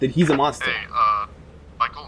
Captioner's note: Walkie Clicks